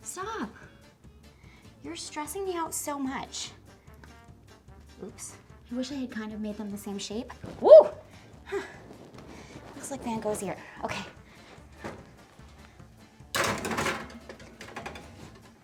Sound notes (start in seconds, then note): 7.6 screams